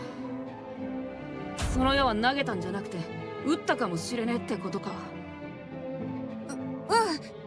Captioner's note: shot